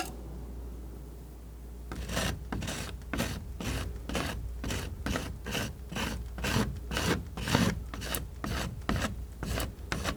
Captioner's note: scratching